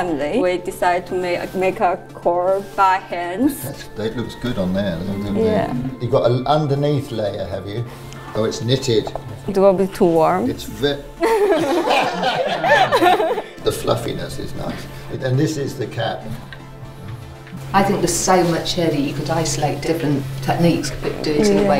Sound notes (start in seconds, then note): 11.2 laughter